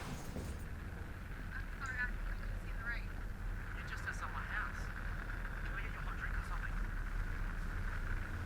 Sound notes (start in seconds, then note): 0.0 movie playing on the TV